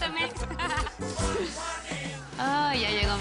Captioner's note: Risas